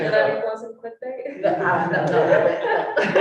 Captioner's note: all laughing